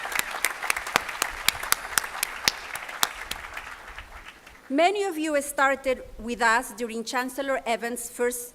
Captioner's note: applause